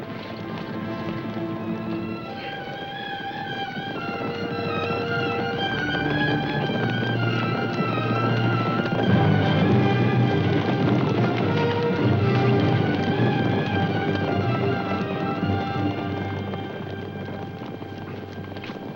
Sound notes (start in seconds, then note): 8.5 horses neighing; 10.4 dramatic music